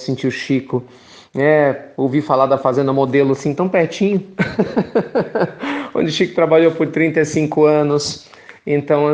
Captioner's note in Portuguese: risos